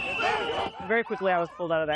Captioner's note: shouting